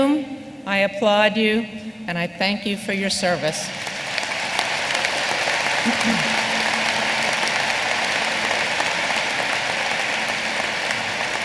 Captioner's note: applause